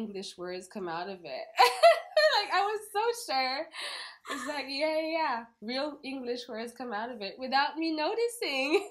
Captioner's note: laugh